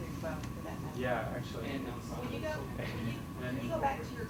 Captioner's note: audience talking